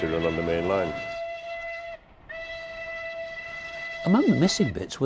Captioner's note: train horn